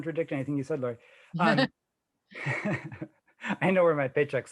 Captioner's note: chuckling